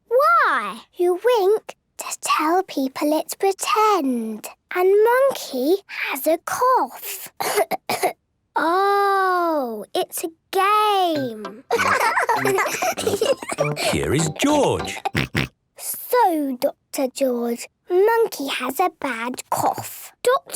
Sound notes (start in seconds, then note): 7.4 pretending to cough; 11.7 laughs; 15.1 snort